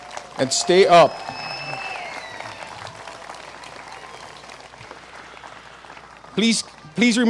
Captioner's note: applause